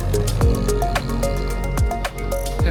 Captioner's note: engine revving